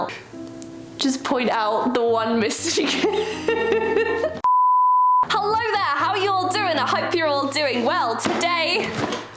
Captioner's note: laughs